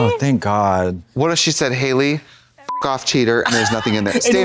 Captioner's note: beep